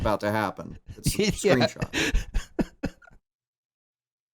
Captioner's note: laughing